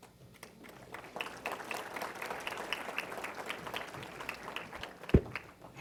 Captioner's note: applause